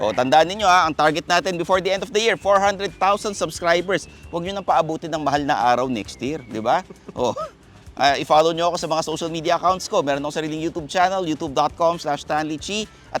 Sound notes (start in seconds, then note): 6.8 laughs